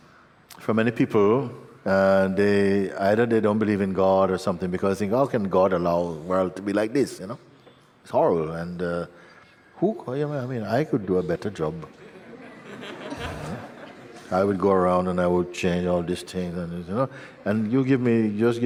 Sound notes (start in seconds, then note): 11.9 laughter